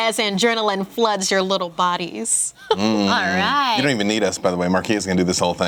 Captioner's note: chuckles